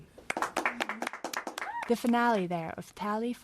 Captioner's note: applause